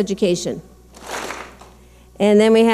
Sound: clap smack

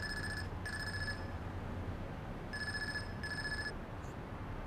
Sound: cellphone ringing

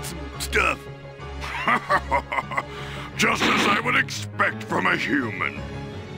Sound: evil laugh

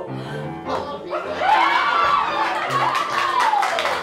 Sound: laughter

